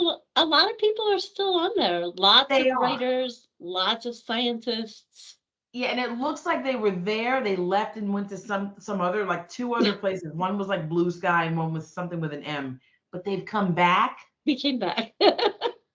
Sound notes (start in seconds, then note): 9.8 chuckling; 15.0 laughing